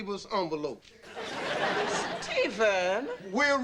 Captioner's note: audience laughing